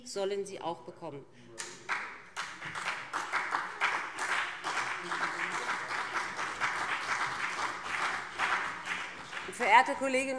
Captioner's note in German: Beifall BÜNDNIS 90/DIE GRÜNEN und CDU